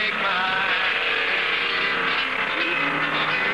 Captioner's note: humming